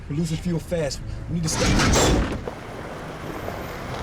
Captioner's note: engine clunks